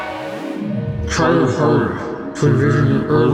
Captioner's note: distorted v.o